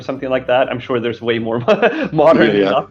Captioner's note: laughing